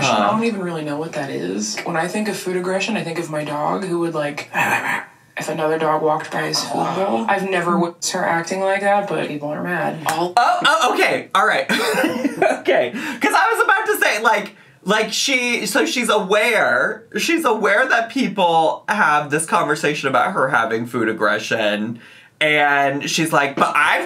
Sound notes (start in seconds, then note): 4.7 growling; 11.7 giggling